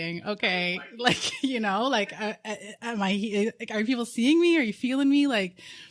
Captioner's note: both laughing